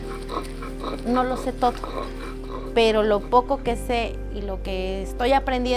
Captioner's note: speaking foreign language